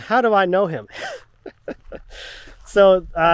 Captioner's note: laughing